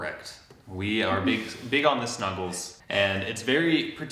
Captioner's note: chuckles